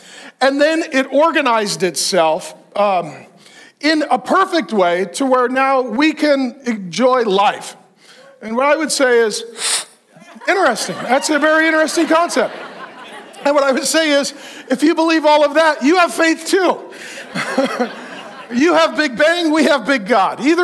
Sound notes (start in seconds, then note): 9.5 sucking; 10.0 congregation laughs; 17.2 all laugh